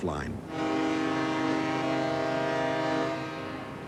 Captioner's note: ship's horn